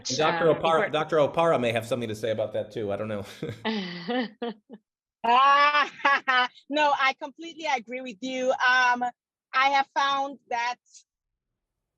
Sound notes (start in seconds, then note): 5.4 laughs